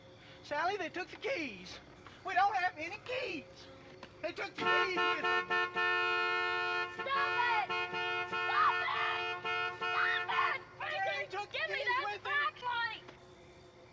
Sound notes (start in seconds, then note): 6.1 honking